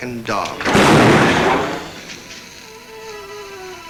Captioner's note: gun bangs